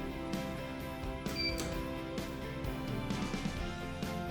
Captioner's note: beep of the down button being pressed